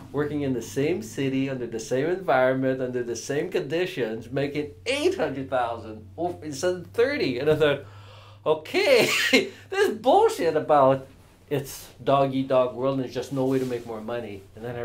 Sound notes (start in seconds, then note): 9.1 laughs